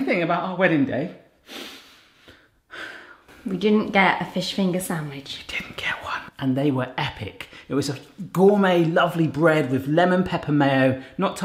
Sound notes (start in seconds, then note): 2.6 sighs sadly; 5.6 whispers